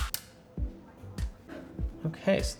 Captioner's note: controller parts snapping together